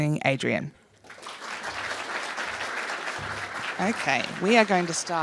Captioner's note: applause